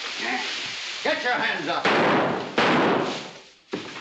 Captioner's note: gunshots